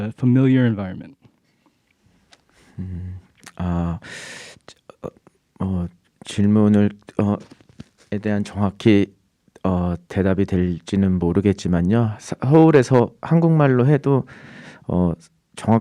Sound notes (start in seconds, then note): 4.0 speaking in Korean